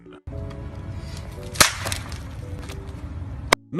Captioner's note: phone smashing on the ground